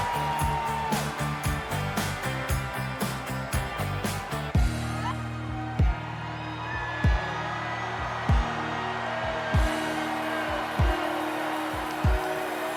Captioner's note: cheers and applause